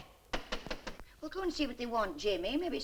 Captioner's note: knocking on door